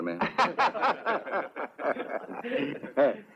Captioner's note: all laugh